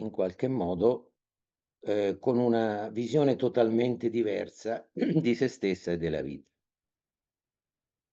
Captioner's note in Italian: schiarire la voce